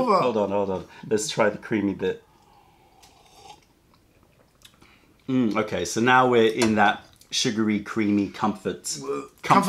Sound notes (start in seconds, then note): 2.2 sips tea